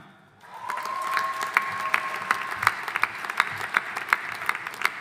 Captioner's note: audience applauding